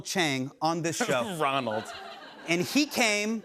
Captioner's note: laughter